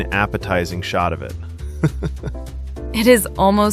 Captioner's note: haha